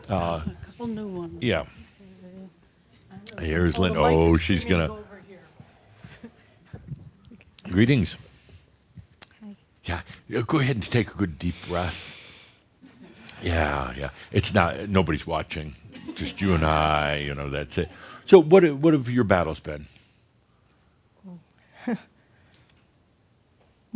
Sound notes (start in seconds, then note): 12.3 she takes a deep breath